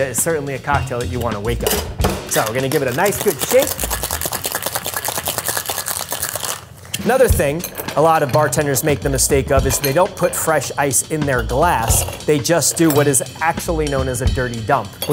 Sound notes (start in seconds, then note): 2.1 drink sloshing